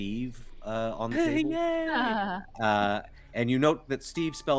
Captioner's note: Calla laughs